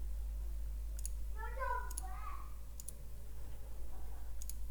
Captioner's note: children talking faintly